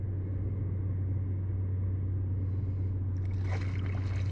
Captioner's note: deep engine sound of the ferry